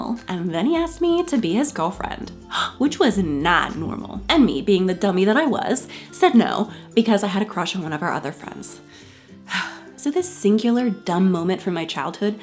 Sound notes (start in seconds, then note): 2.4 gasping; 8.4 sighing